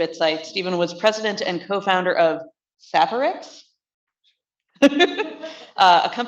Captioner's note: laughs